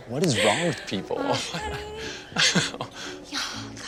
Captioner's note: both laugh